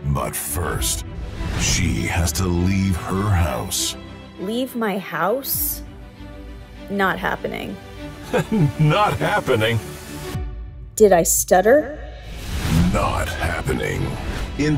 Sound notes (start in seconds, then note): 8.2 chuckles; 11.6 reverb